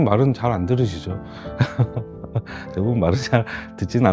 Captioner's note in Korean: 웃음